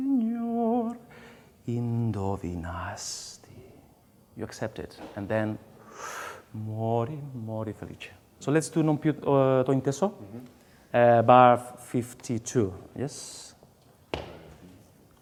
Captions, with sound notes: [SINGS IN FOREIGN LANGUAGE]. You accept it, and then [DEEP BREATH] "Mori, mori felice". So, let's do "Non piu". Bar 52, yes.